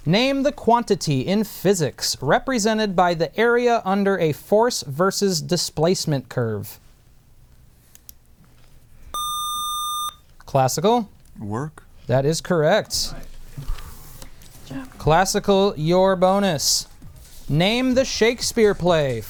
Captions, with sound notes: Name the quantity in physics represented by the area under a force versus displacement curve. [Buzzer] Classical. Work. That is correct. Classical, your bonus. Name the Shakespeare play,